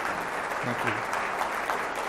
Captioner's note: crowd applauds